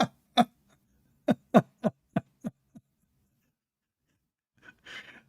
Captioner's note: Ketawa